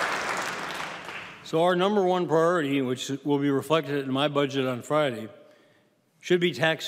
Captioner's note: applause